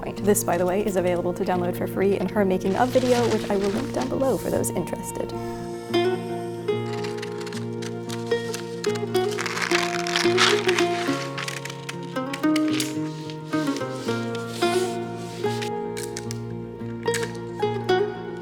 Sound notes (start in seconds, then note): 5.7 lute music; 6.7 scissors crunching